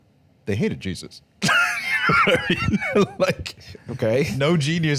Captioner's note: laughing